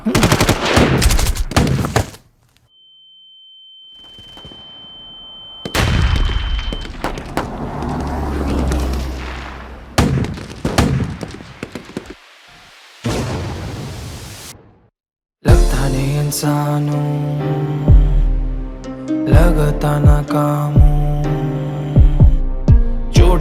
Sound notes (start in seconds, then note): 0.0 gun Sound; 2.8 beep; 5.8 battlefield Sounds